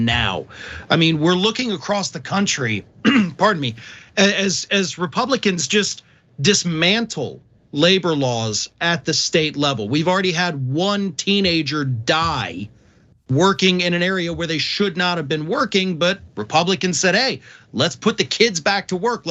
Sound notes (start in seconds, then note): 3.0 cough